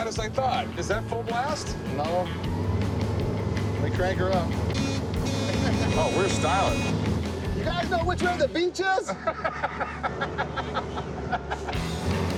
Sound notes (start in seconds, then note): 4.7 horn beeping; 8.9 laughs